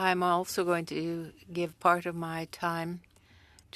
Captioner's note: speaking french